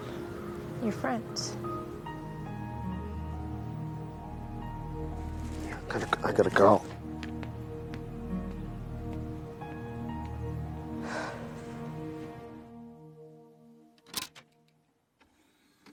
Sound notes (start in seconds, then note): 8.2 pensive music; 11.0 Caitlin sighs